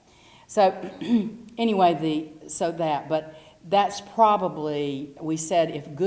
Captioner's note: cough